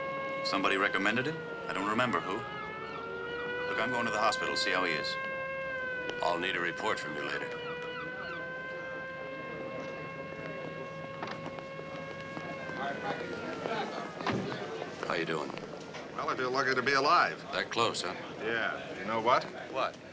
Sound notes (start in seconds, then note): 8.0 siren wailing; 12.7 people chattering